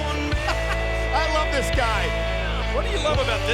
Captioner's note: energetic music; laughing